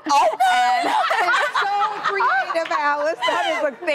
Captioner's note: hosts laughing hysterically